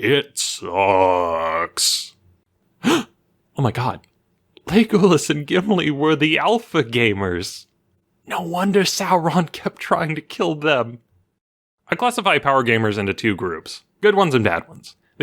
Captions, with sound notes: It sucks! *Gasp* Oh my God. Legolas and Gimli were the Alpha Gamers No wonder Sauron kept trying to kill them I classify power gamers into two groups. Good ones and bad ones.